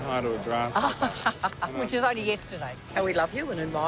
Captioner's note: laughs